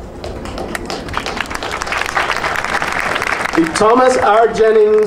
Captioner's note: audience applauding